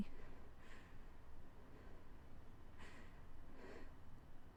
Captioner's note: Ella panting